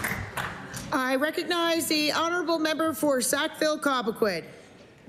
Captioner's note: applause